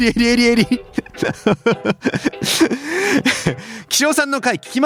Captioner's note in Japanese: 笑い